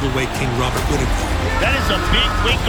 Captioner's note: du Plessis yelling